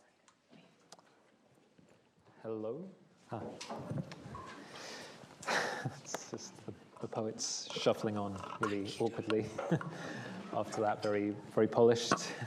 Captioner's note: laughs